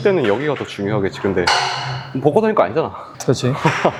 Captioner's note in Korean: 한숨